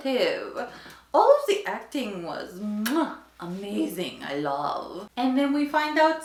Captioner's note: muah